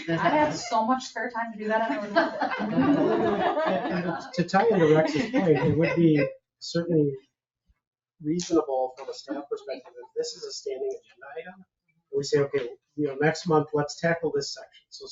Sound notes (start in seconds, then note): 1.7 people chuckle